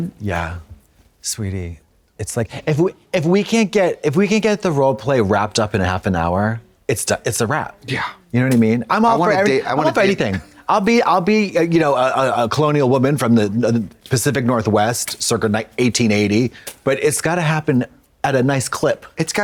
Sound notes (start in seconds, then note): none